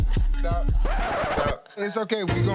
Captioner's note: record scratch screeches; upbeat string music